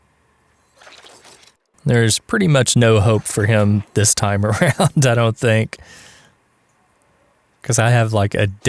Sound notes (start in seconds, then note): 4.4 haha